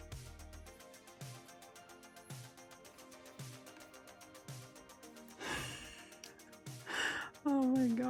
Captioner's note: nervous laughing